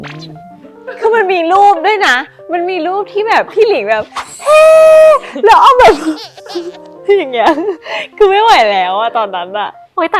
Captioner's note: cyring